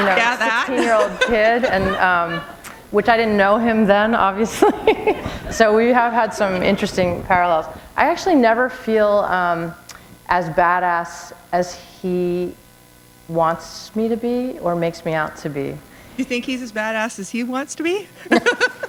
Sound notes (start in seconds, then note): 5.0 chuckle; 18.2 chuckle